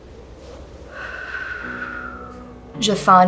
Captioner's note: sigh